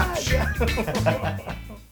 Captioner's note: laugh